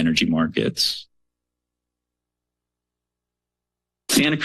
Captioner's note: pause